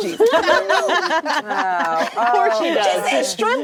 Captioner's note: actresses laughing